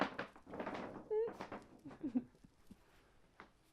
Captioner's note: laughs